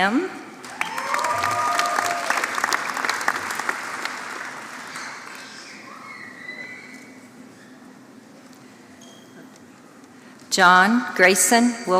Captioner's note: applause